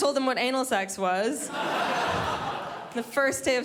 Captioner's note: crowd laughs